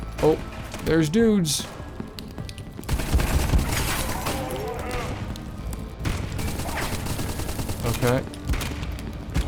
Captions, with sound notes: Oh, there's dudes. (gunfire) Okay.